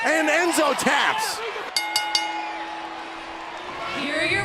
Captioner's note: bell ringing